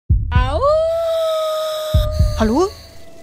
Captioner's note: wolf howling